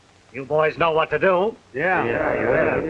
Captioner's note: gang murmurs assent